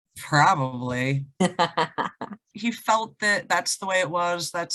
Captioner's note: laughs